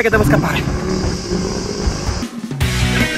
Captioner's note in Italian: Grugniti del Minotauro